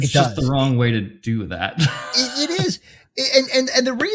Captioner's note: laughs